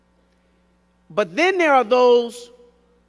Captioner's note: none